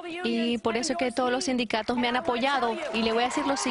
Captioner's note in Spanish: aplausos